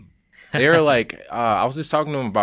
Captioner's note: laughing